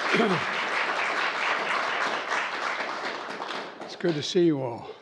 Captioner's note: applause